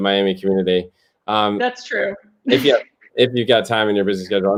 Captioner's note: laughter